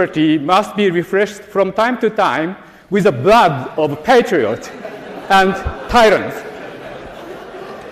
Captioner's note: laughter